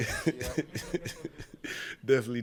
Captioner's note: all laughing